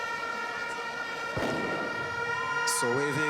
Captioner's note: banging